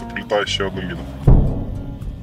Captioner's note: sound of incoming explosion